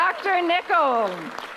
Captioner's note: applause